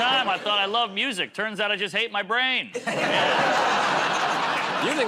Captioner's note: laughter